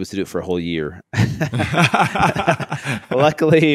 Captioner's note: laughing